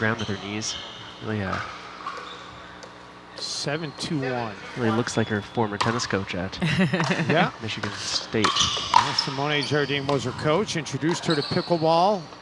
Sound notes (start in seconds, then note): 6.6 chuckling